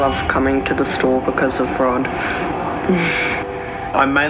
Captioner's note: laughs